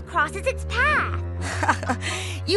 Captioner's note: laughs